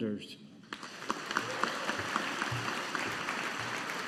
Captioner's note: audience applauding